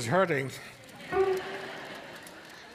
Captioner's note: audience laughing